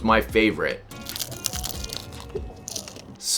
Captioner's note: loud Crunching